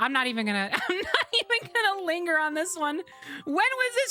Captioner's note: laughing